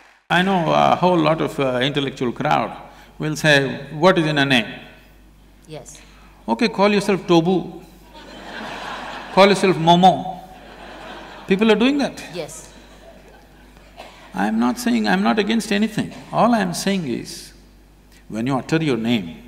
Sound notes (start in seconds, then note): 8.1 laughter